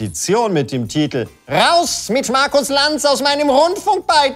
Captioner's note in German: Er liest in schriller Stimme vor